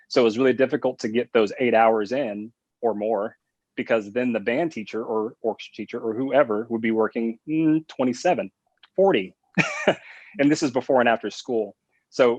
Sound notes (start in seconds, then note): 9.6 laughs